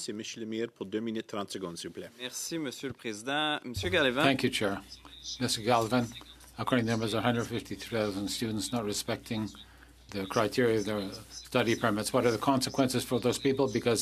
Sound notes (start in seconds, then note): 6.4 speaking French